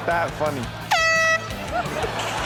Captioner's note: whistle blowing; all laughing